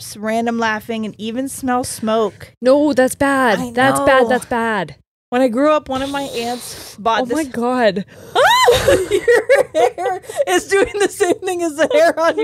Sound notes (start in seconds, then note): 5.9 exhales; 8.3 shrieks